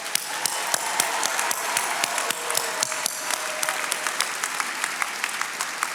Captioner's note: attendees cheering and applauding